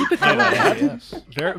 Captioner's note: laughter